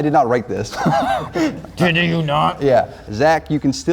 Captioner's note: laughing